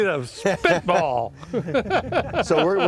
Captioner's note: laughter